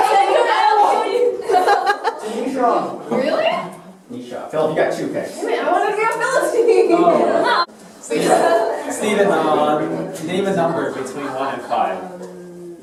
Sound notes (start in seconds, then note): 1.2 laughter